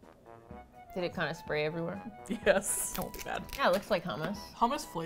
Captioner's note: laughs